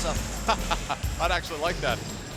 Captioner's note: laughs